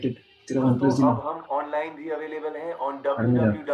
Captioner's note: radio